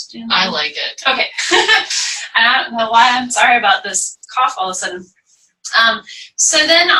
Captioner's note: laughter